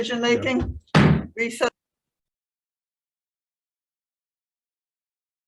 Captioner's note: gavel bangs